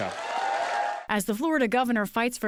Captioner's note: cheering and applause